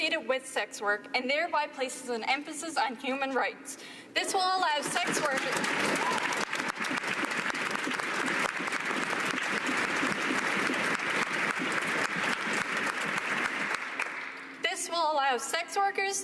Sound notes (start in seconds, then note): 9.2 cheers and applause